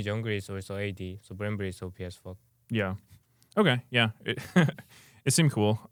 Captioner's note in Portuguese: risos